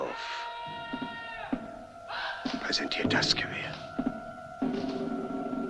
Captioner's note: man yelling commands